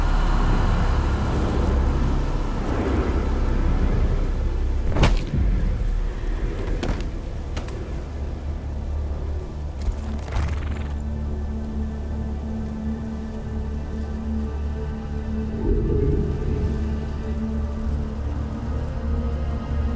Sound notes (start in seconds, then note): 0.2 Ren breathes deeply and slowly; 5.0 Kah'Nath thumps